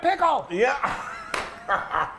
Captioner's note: laughing